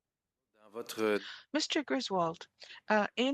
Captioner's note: speaking French